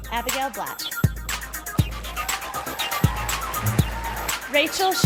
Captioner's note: sound of applause and cheering from the audience